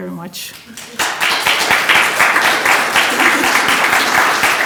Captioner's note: attendees applauding